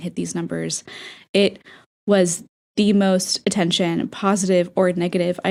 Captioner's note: inhale